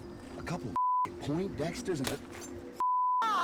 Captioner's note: fleshy pop